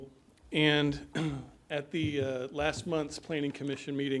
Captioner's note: clears throat